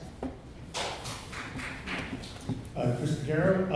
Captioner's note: clapping